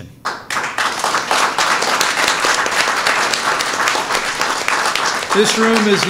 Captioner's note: applause